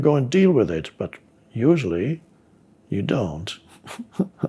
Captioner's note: laughs